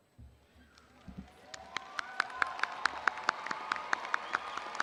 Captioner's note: audience applauding